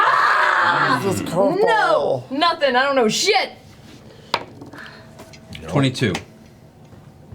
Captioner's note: yells